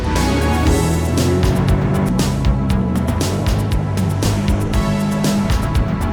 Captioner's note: revving engin; techno music